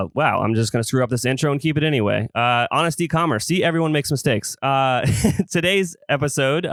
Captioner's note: laughs